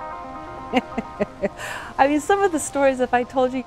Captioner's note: laughs